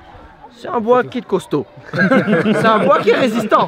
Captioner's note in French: Rire